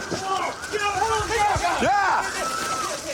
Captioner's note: officers yelling